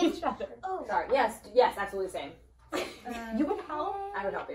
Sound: laughs

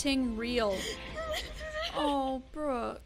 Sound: sobbing

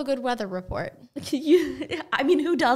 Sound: laughing

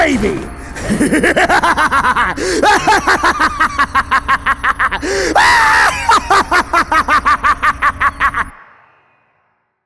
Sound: laughs in Evil

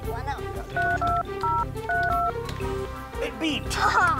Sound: numbers dialing

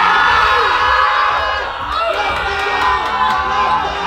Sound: group shouting

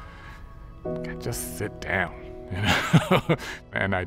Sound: chuckles

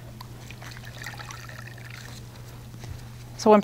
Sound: water pouring

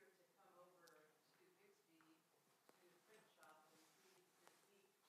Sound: speaking faintly

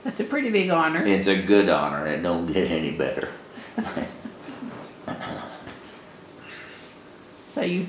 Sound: laughter

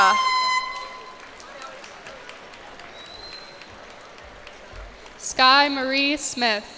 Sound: cheers and applause

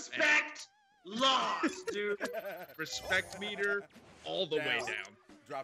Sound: laugh

